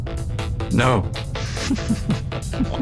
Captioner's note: snickering